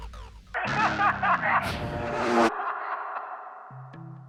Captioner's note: men laughing